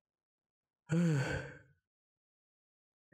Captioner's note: sigh